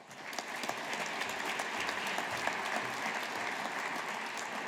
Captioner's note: audience applauding